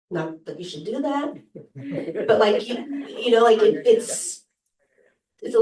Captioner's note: laughter